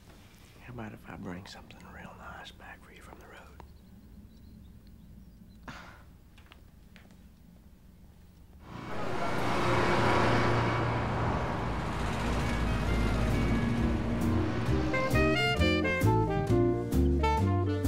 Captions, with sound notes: - How about if I bring something real nice back for you from the road? (scoffs) (elegant jazz music)